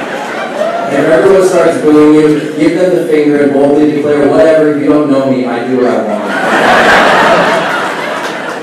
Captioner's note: laughing; laughing